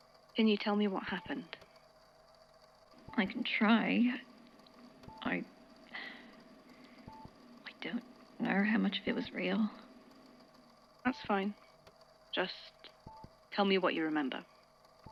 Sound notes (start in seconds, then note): 5.9 sighs